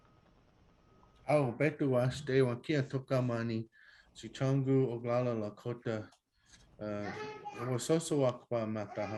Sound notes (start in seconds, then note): 1.6 speaking Lakota